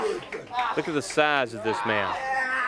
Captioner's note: crowd chatter